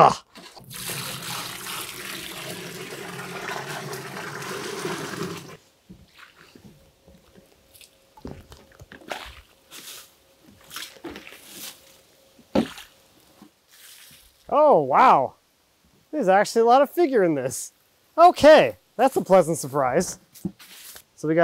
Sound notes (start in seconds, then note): 0.6 water splashing; 8.4 splashing